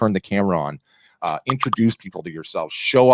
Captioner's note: bubbles popping